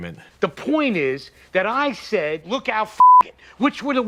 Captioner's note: beep